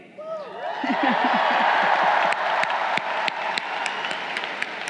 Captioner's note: crowd cheering